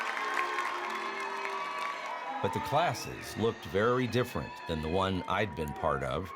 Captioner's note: audience cheering